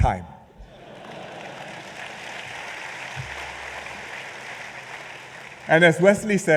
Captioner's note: laughter and applause